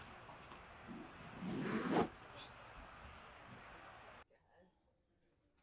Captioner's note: zipper clattering